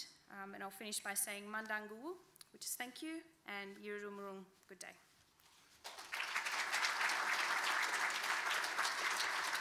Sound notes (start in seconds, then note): 1.4 speaking in foreign language; 3.6 speaking in foreign language; 5.8 audience applauding